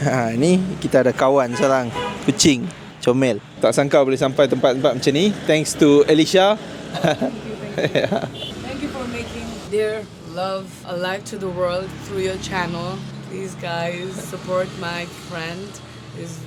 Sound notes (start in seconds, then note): 6.9 laugh